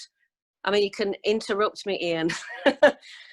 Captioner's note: laughs